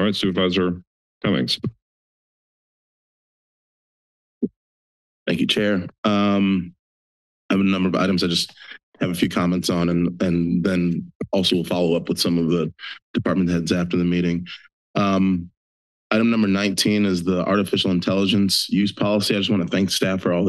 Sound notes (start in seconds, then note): 1.8 silence